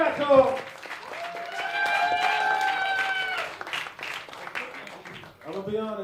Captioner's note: applause